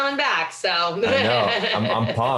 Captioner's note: laughs